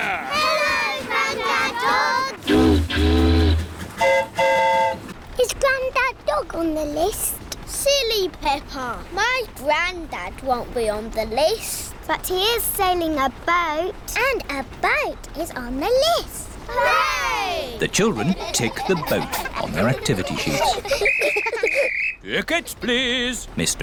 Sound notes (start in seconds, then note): 2.4 boat horn honks; 2.4 train horn toots; 21.0 blows whistle